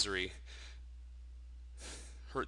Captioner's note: sighing